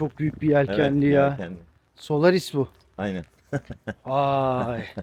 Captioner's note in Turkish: kahkaha